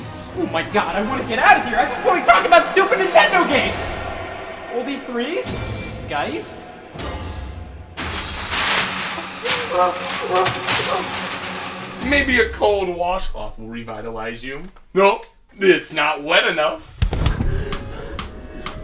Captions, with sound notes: - Oh my God, I wanna get out of here, I just wanna talk about stupid Nintendo games. (dramatic music) Old E3s? "Geist"? (paper ruffling) (gasps). - Maybe a cold washcloth will revitalize you, oh, it's not wet enough.